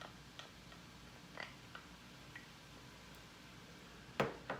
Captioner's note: pan sizzling